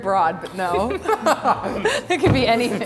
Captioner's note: laughing